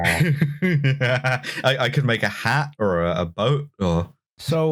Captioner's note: laughs